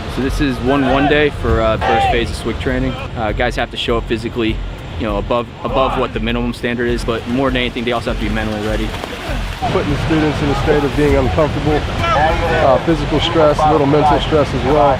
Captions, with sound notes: - So this is one run day for first phase of SWCC training. Guys have to show up physically. Above what the minimum standard is. But more than anything, they also have to be mentally ready. (student grunting) (water splashing) - Putting the students in a state of being uncomfortable, physical stress, a little mental stress as well.